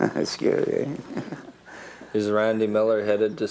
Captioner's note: laughter